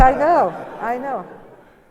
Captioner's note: laughter